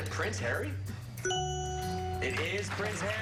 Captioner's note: bell